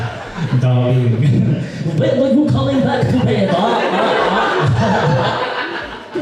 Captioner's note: audience Laughs; Says in Dracula’s voice